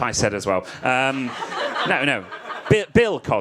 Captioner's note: audience laughs